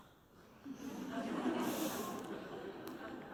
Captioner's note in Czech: Smích